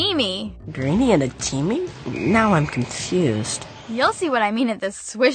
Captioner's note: whistle